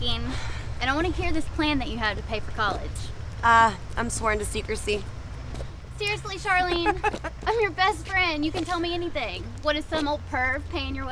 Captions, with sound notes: SO I'VE BEEN THINKING AND I WANNA HEAR THIS PLAN THAT YOU HAVE TO PAY FOR COLLEGE. I'M SWORN TO SECRECY. SERIOUSLY, CHARLENE? [ LAUGHS ] I'M YOUR BEST FRIEND. YOU CAN TELL ME ANYTHING. WHAT?